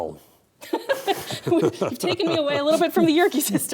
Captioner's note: laughing